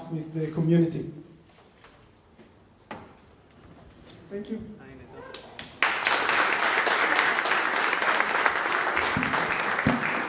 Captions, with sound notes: with the community. Thank you. (applause)